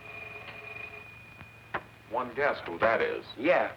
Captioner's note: phone ringing